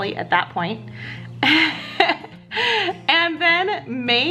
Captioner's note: laughs